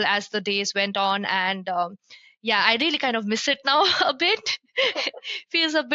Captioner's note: laughs